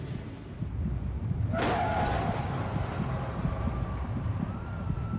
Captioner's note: tire screech, car crash noise, sirens